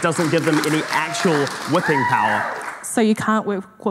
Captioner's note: audience cheering